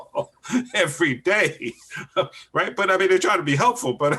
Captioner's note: laughs